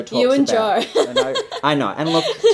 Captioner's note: laughs